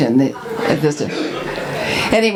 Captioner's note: audience laughs